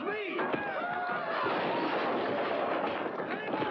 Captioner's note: crash